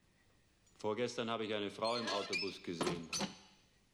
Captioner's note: speaking german